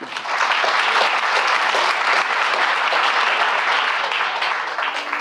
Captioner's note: applause